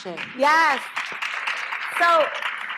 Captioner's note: applause